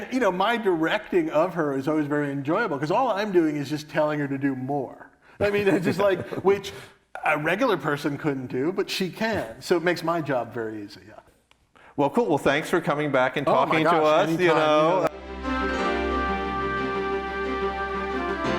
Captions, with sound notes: My directing of her is always very enjoyable, 'cause all I'm doing is just telling her to do more. (both laugh) Which a regular person couldn't do, but she can, so it makes my job very easy, yeah. - Cool. Thanks for coming back and talking to us. - Oh, my gosh! Any time. (uplifting music)